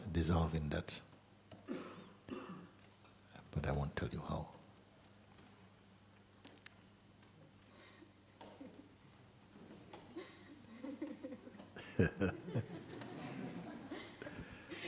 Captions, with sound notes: Dissolve in that. But I won't tell you how. [llaughter]